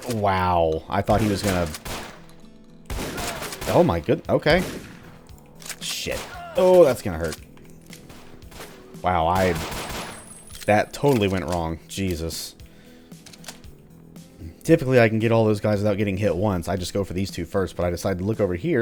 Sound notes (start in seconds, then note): 9.3 gunfire continues